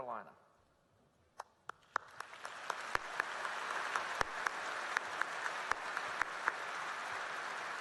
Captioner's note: applause